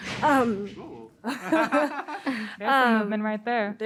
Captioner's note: laughs